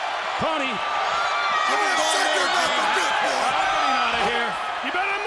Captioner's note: Goldberg shouting